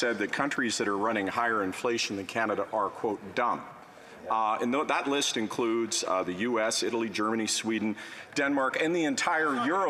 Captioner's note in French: voix de l'interprète